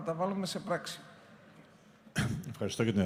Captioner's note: clears throat